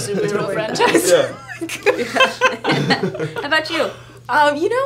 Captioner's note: laughing